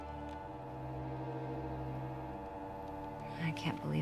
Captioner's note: dial tone humming